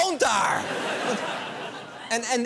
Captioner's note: laughter